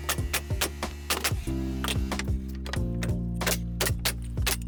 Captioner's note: gentle music; nails clicking